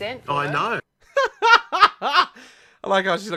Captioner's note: laughs